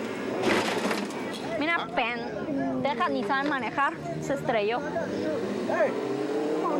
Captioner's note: car crushing into another car